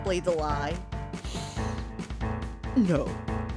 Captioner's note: deep inhale